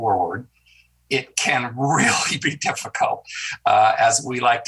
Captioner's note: senator chuckles